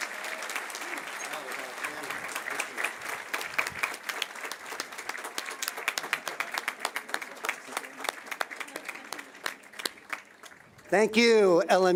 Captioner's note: cheers and applause